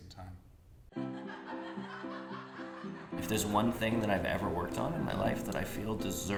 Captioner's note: laughter